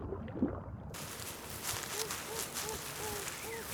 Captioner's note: rustling